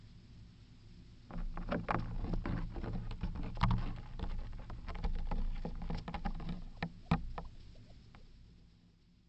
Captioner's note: A gentle tapping or rustling sound